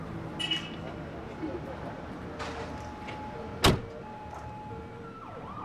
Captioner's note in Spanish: Sonido de sirenas a lo lejos